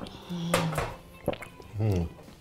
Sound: glass thuds; glugging; glass thuds; groans

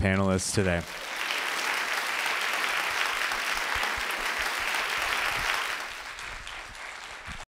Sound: applause

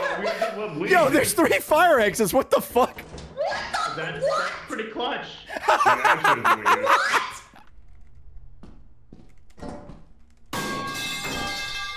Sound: laughs; laughs

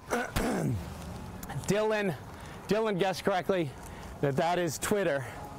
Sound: clears throat

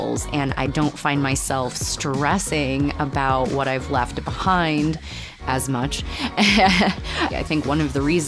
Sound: laughter

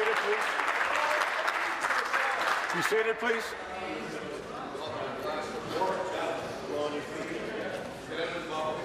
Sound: applause

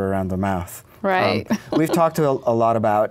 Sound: laughs

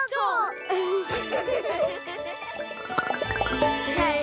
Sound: giggling

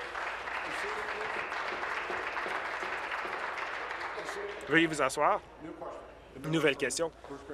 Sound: applause

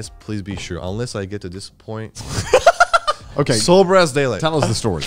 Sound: laughing

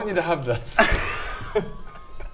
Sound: stunned laughter

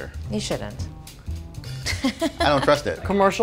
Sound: chuckles

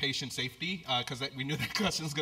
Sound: laugh

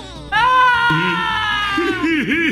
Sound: scream

